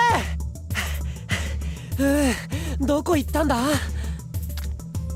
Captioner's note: huff